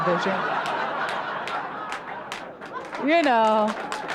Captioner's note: audience laughs and claps